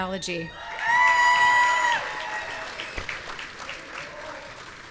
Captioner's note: audience cheering